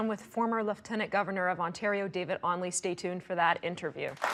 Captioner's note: audience applauding